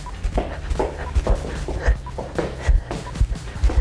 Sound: breathing heavily; shoes tapping

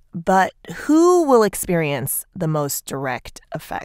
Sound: none

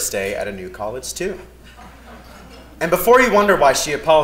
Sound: laugh

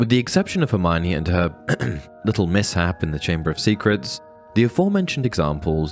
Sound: ahem

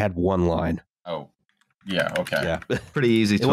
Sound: keyboard tapping

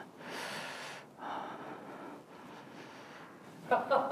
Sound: deep sigh

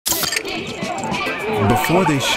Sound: bottle cracking open

